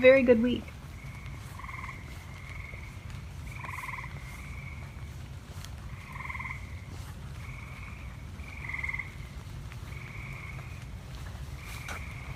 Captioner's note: frog sounds continue and then fade out